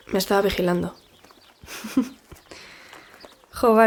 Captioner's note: Sua laughs